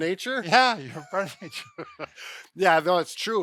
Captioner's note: both laughs